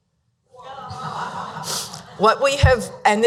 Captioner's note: audience laughing